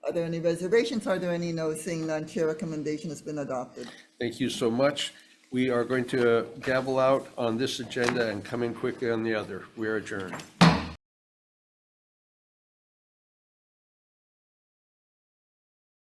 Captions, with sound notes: Are there any reservations? Are there any no's? Seeing none, Chair recommendation has been adopted. - Thank you so much. We are going to gavel out on this agenda and come in quickly on the other. We are adjourned. (gavel bangs)